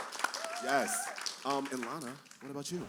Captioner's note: applause